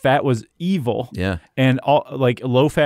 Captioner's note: voiceover